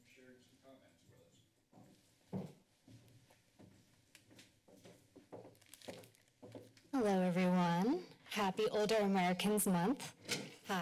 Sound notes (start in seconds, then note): 1.8 footsteps